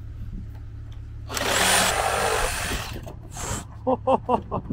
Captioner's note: saw cutting board; laughing